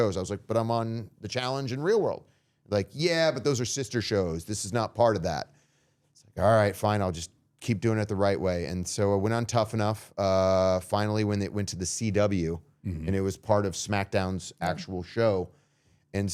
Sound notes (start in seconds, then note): none